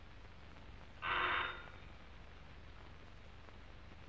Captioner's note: doorbell ringing